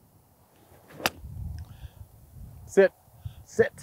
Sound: loud thump

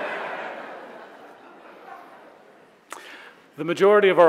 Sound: audience laughs

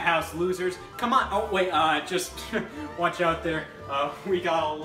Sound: chuckles

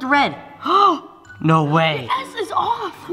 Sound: gasps

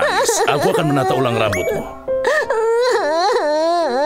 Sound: cries

